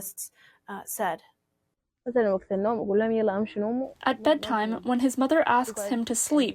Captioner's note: through translator